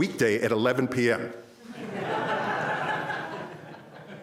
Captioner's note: crowd laughs